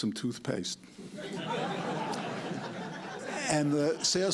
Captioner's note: laughter